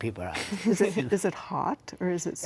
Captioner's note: laughs